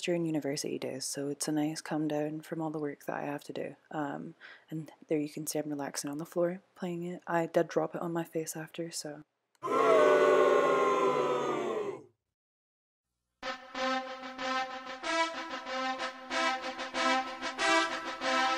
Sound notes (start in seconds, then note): 9.6 booing; 13.4 inspirational music